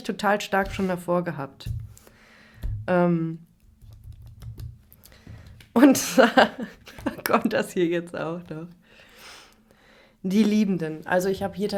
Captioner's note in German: schnauben; gelächter; schnauben